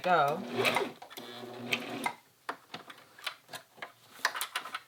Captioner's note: sewing machine whirs